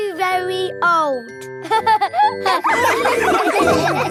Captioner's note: all laughing